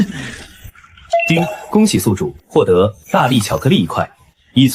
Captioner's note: ding!